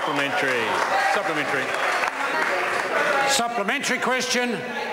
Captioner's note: members applaud